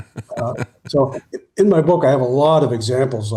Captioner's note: laughing